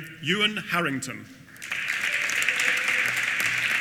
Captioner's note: applause